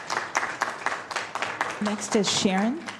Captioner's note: applause